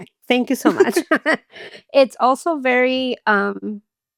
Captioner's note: all laughing